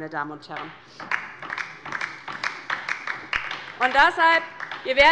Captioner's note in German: Beifall bei der LINKEN